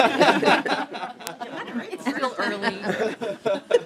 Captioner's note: laughing